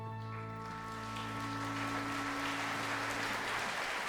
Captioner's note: applause